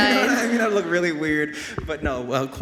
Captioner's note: everyone laughing